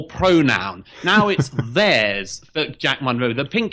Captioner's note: Harris laughs